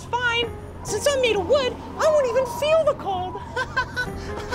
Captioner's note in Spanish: Risas